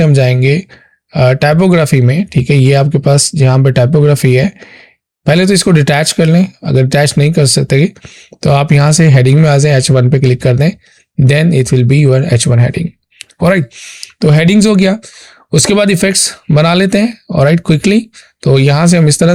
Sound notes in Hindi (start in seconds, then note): 13.1 नाक से की जाने वाली आवाज़